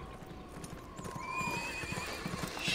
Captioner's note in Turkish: At kişniyor